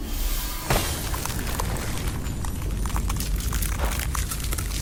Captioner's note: tense music; ice cracking